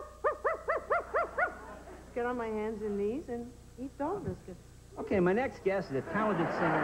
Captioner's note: barking